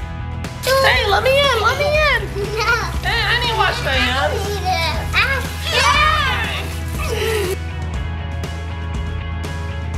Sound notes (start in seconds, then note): 0.3 energetic music; 2.8 giggling; 4.9 water running